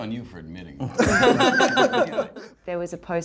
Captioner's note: laughs